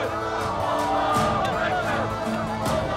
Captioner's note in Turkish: Hep bir ağızdan